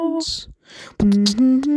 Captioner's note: breathe in; epic beatboxing